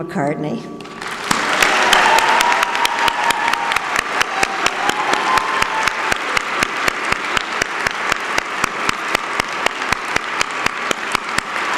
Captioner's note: applause